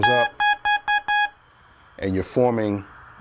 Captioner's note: talkbox beeps